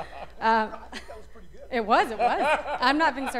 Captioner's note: laughter